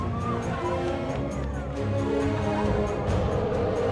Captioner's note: cheering; elephant roaring